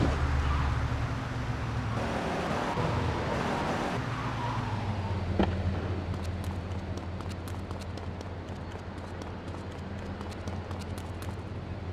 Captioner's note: speaking in foreign language